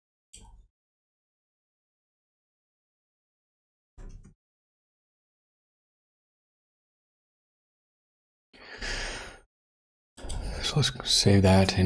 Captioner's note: blank Audio